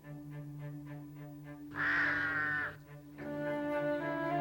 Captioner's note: cawing